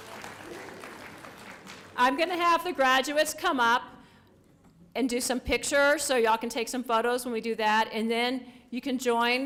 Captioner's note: applause